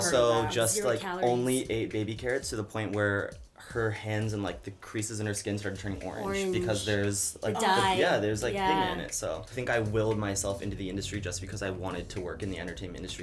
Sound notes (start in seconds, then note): none